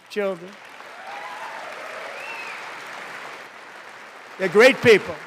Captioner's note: applause